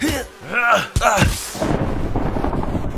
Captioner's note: lightning; thunder